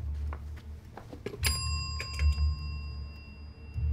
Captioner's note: phone dings